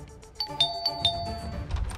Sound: doorbell ringing; door opens

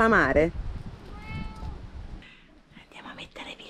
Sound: meow

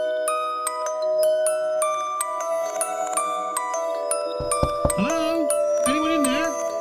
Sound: muffled knocking

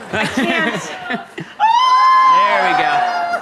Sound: audience screams; Jenna screams

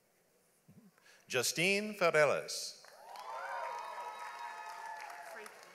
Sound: audience applauds

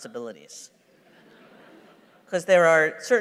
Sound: laughter

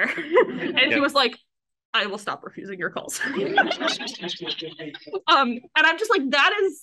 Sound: laughs

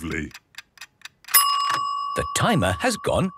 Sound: dinging

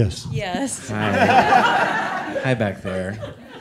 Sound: all laughing

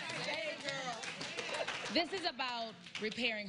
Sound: applause

